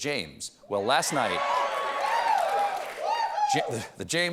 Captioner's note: applause